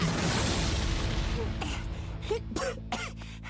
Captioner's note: coughing